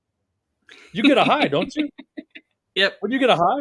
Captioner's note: laughing